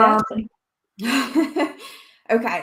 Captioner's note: laughs